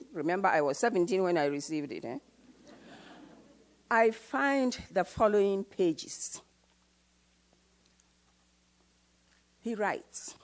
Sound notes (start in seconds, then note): 2.9 audience laughs